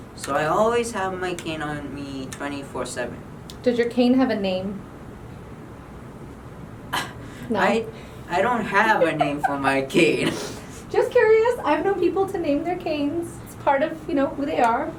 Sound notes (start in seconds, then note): 8.8 laughs; 8.8 giggling